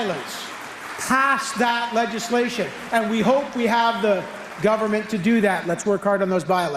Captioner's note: applause